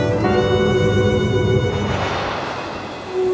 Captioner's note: thunder crash; female soloist singing